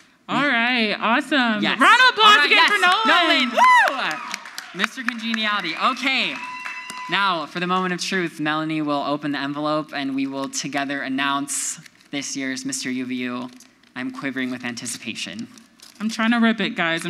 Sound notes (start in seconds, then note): 2.3 audience applauds